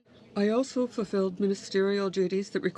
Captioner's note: speaking in French